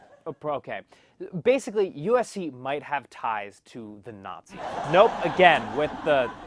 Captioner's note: laugh track